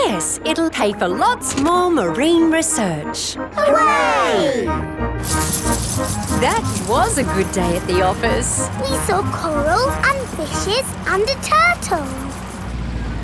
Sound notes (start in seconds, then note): 5.7 coins jingling